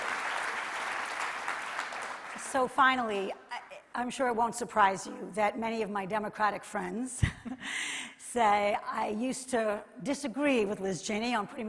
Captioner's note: applause